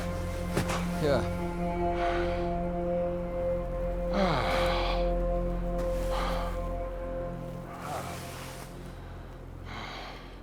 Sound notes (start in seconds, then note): 4.1 James moans